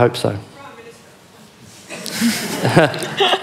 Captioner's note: laughing